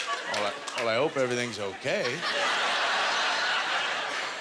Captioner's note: audience laughter